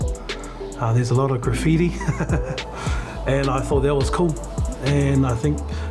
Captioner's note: chuckles